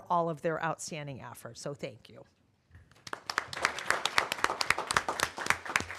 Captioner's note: applause